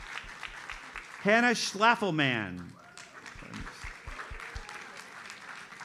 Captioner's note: audience applauds